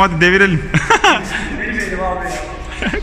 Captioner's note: laughing